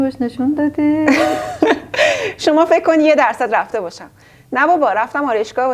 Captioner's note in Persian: خنده